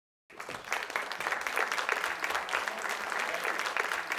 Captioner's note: audience applauding